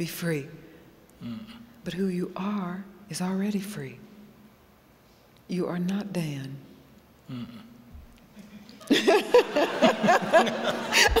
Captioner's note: laughter